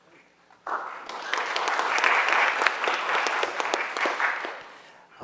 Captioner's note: audience applauds